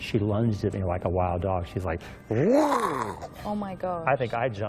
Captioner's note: growls